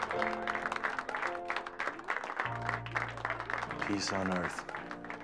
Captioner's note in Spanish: audiencia aplaudiendo